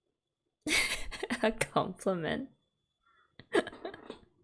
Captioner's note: laughs